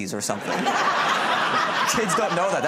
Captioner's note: laughter